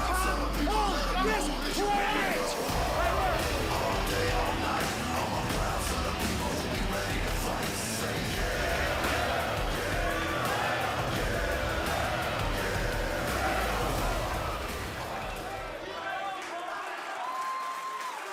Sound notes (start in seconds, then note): 7.2 crowd cheering